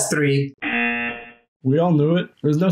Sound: buzzer rings

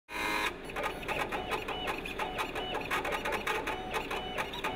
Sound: machine whirring

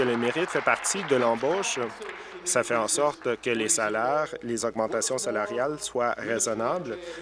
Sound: applause

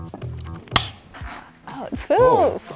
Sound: clapboard clacking

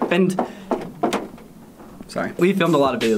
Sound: knocks on door

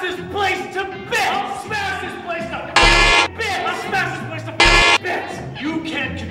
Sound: honk

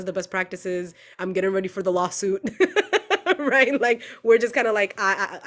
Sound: laughs

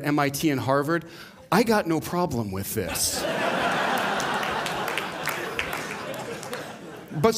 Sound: laughter

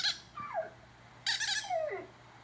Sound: toy Squeaking; dog Whimpering

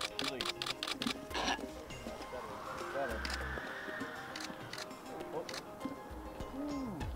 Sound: wind/Music/Background noise

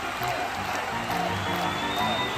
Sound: crowd cheering

